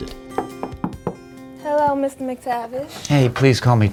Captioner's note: knocking